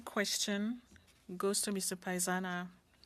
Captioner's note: speaking French